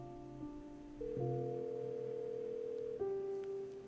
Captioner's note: phone ringing